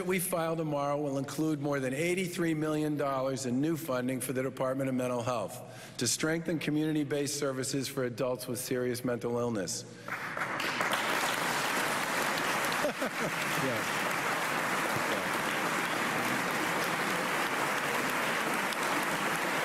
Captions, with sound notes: WE ALSO HAVE WORK TO DO TO BOLSTER BEHAVIOR HEALTH SERVICES. WE WILL INCLUDE 80Ã$80 MILLION TO SUPPORT MENTAL HEALTH. [ APPLAUSE ]